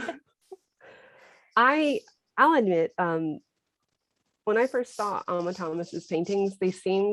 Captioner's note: laughter